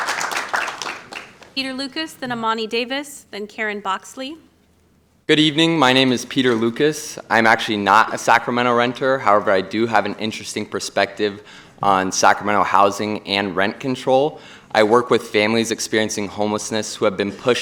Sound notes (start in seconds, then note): 0.0 applause